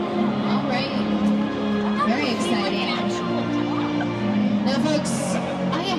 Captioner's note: people chattering